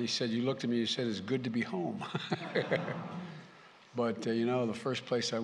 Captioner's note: laughter